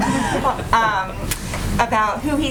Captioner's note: laughter